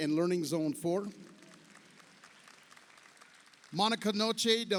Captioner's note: audience applauds